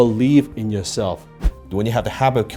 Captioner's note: air whooshing